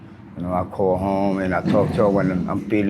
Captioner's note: engine revs